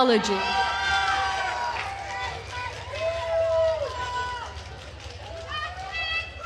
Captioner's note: attendees cheering and applauding